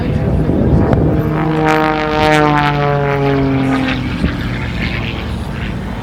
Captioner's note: engine noise